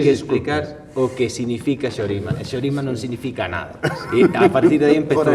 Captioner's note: laughs